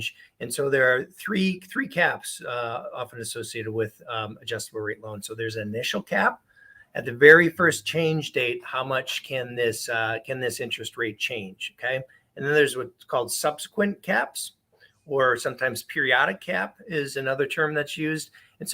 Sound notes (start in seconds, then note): none